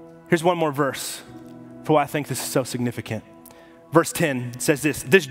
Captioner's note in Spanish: none